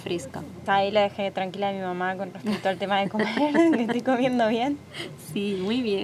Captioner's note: laughs